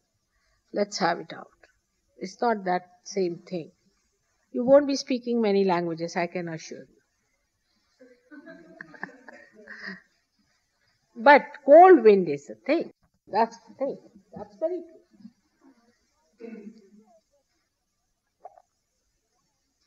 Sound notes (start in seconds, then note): 8.0 laughing